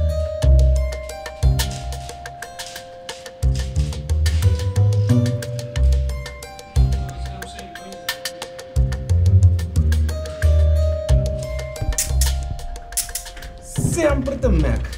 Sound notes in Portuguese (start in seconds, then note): 12.6 handcuffs clicking